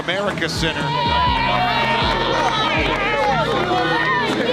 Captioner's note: family screaming